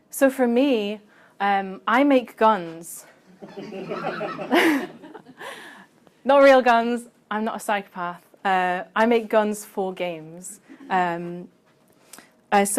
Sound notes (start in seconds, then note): 3.3 laughter